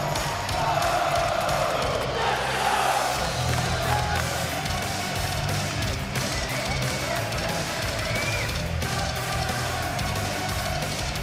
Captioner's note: crowd cheering